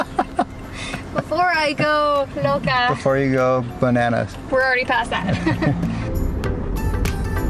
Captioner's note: laughter; laughter